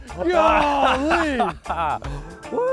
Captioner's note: both Laugh